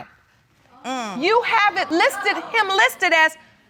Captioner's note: audience gasps